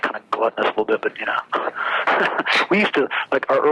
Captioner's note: laughs